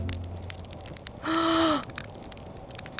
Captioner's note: gasp